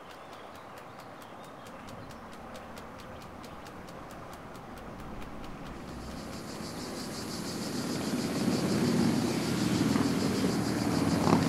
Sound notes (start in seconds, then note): 4.7 birds chirping; 4.7 motorbikes revving